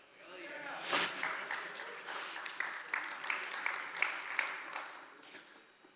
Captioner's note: applause